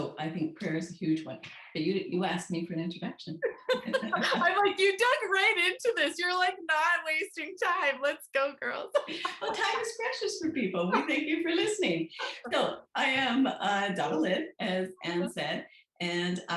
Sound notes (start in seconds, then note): 3.4 laughs; 8.8 laughs